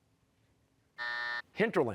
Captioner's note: buzzer